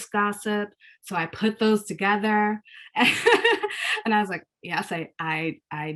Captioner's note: laughs